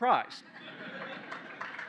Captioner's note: laughter; cheers, applause